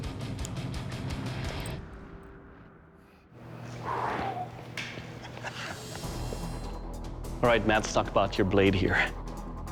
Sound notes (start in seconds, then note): 3.2 sigh; 4.8 chuckling